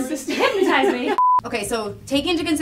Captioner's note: beep sound